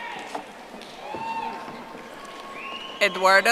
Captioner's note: audience applauding